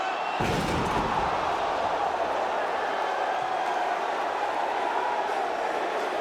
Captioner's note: crowd exclaiming; table crashing